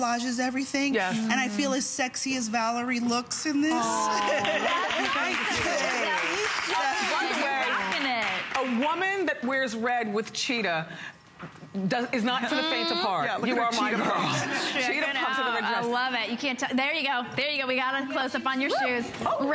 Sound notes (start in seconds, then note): 4.1 applause